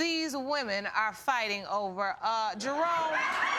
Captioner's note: audience laughing